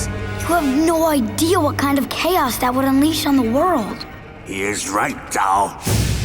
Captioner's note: none